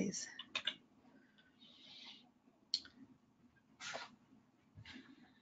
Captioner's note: keyboard tapping